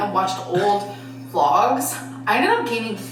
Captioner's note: chuckling